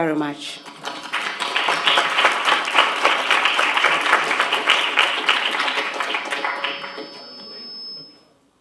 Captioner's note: applause